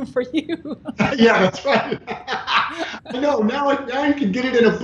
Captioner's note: laughing